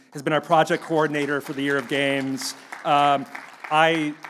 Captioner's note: audience clapping